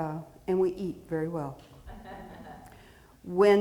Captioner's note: audience chuckling